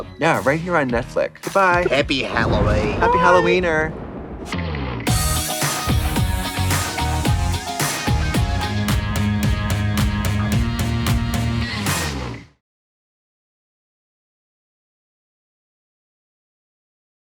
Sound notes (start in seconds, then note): 2.4 Australian accent; 5.0 upbeat scary music